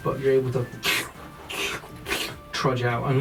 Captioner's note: slurping footsteps